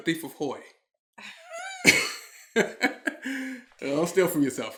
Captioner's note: laughing